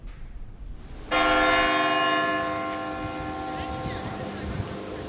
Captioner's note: bell rings